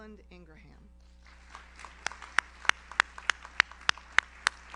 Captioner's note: audience applauds